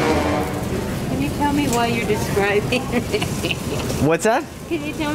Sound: concerning music; giggles

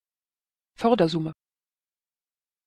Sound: fast Pronunciation

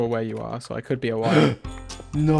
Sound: gasps

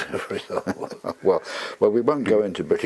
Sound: laugh

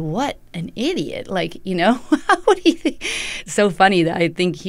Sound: laughter

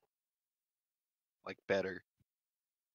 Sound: quietly

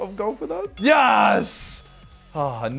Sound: ding

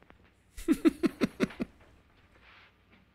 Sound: chuckles

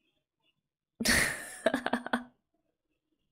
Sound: laughs

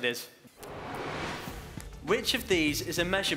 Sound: whooshing

